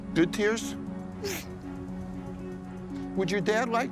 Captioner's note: sniffling